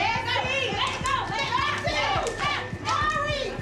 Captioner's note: shouting